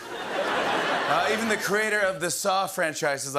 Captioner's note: laughter